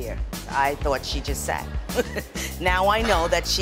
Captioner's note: laughing